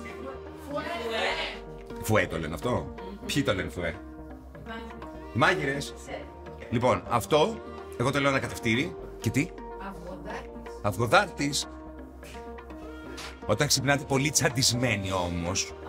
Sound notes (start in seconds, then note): none